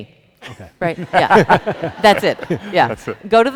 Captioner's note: people laughing